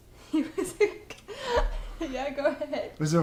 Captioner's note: laughter